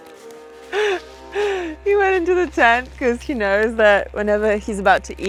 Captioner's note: chuckles